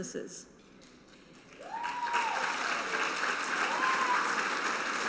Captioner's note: cheering and applause